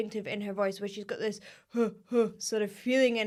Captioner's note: vocal humming